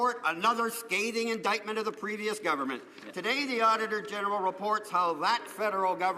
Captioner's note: some Applause